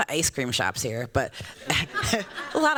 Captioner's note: laughter